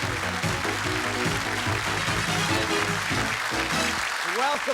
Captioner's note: cheers and applause